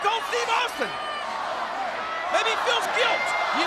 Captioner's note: audience chanting